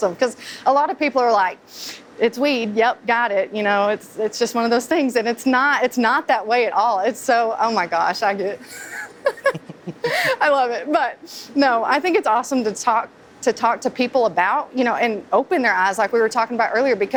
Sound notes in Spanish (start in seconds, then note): 8.6 Se ríe